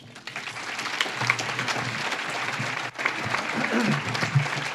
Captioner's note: audience claps